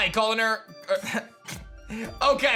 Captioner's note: chuckles